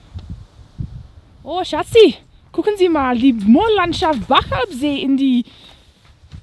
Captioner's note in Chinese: 德语